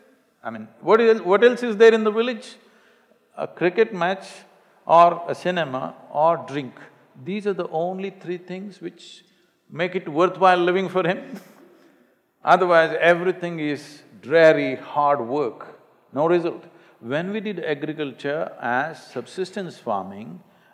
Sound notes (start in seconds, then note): 11.8 laughs